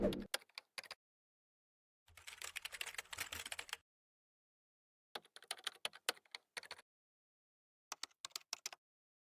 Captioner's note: mouse clicks; different keyboards typing